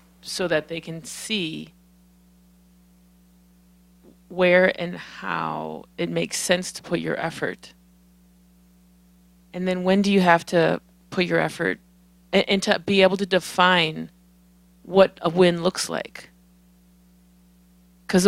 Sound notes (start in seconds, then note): none